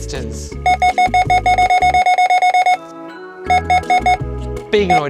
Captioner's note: scanner beeping repeatedly